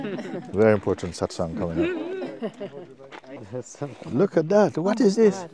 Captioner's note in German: Lachen